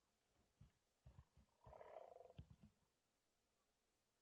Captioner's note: muskox snort